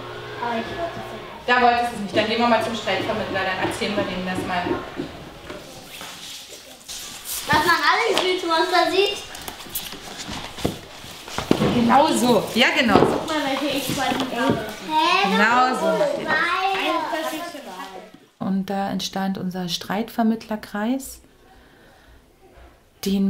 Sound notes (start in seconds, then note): 14.8 children shouting